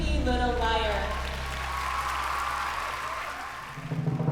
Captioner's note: cheering